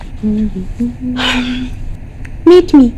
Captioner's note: Sighs